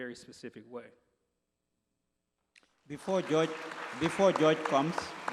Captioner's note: applause